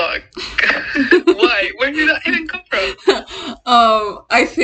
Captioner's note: laughing